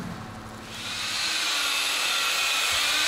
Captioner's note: whirring